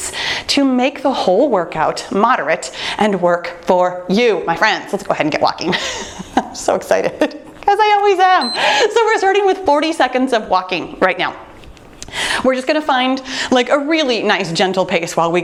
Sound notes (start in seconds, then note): 5.6 laughs; 8.4 timer beeps